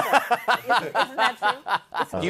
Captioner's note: laughs